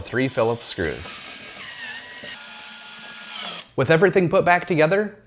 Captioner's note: drill whirring